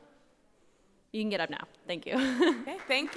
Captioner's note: chuckles